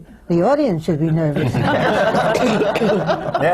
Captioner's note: laughter